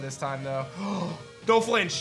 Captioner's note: gasps